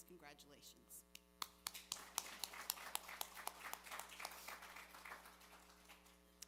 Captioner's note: applause